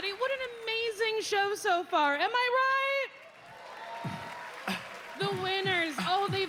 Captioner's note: applause